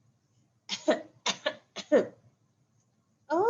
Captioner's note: coughs